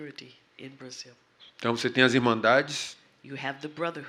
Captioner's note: speaking portuguese